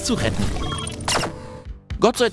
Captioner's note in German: Zappende Geräusche